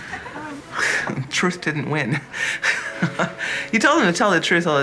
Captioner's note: laughs